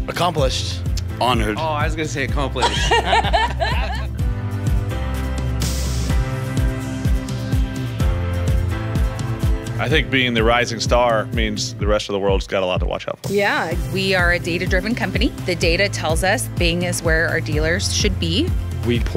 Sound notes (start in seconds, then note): 2.6 laugh